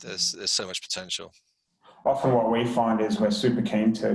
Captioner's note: murmurs